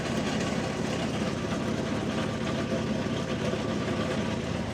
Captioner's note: skid steer rumbling